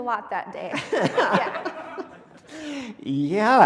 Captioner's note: laughing